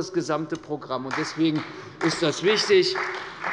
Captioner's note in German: Beifall bei der CDU und dem BÜNDNIS 90/DIE GRÜNEN